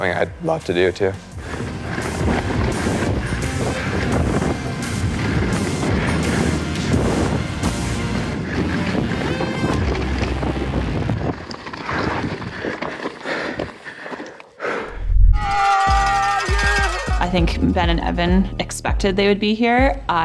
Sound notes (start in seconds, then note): 2.8 dramatic music; 2.8 wind whirling; 11.8 breathing heavily; 15.3 people cheering